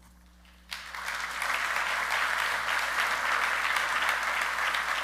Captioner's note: audience clapping